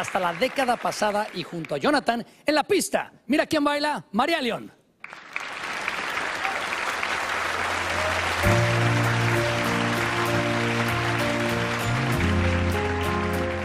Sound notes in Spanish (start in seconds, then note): 5.0 aplausos